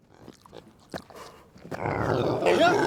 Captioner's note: lips smacking; Otis grunting and chomping; Otis loudly growls; Del shouts